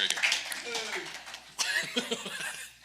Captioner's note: participants clapping